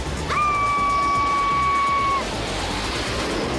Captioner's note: blast; screams